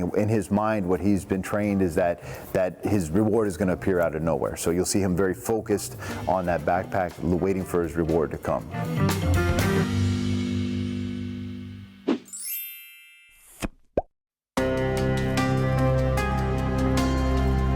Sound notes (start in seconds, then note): 9.1 funky upbeat music; 12.3 frame whooshing; 12.3 chimes tinkling; 14.6 dramatic music